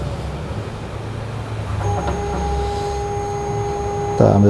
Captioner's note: printer machine noise